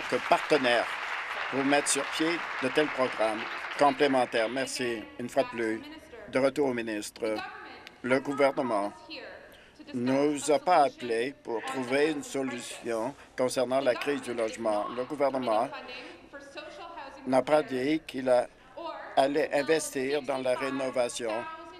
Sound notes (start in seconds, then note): 4.4 applause